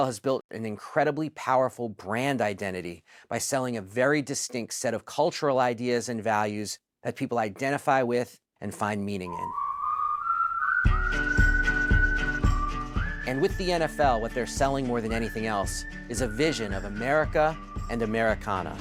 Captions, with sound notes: has built an incredibly powerful brand identity by selling a very distinct set of cultural ideas and values that people identify with and find meaning in. (WHISTLING) And with the NFL, what they're selling more than anything else is a vision of America and Americana.